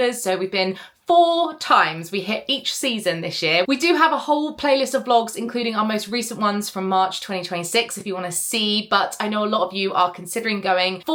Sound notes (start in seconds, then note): none